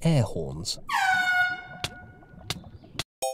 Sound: airhorn

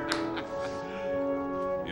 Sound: laughing

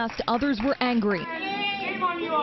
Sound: applause

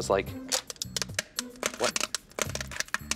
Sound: clacking

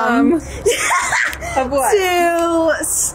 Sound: laughs

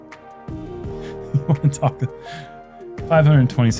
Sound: laughs

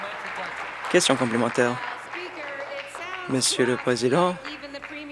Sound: applause

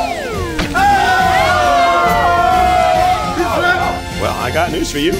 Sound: guests cheering

